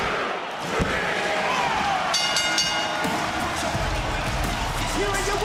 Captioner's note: bell rings